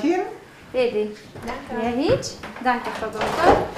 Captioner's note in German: spricht rumänisch